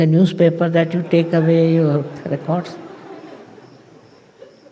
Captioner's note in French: rires